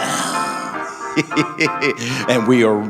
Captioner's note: laughing